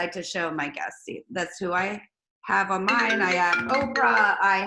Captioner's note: phone rings